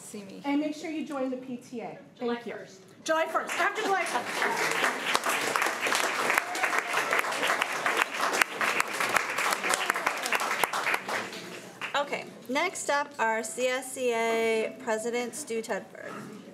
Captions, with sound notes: and make sure you join the PTA. July 1st. (crowd clapping) - Okay, next up our CSEA President Stu Tedford.